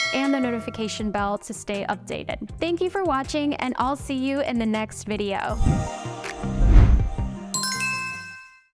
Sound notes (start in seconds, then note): 5.5 pleasant music; 7.5 bell chiming